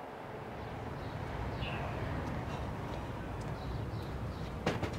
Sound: birds chirping

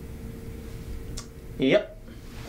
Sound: tongue clicking

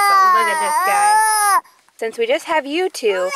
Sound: loud whimpering

